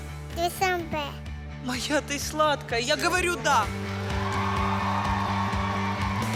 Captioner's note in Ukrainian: оплески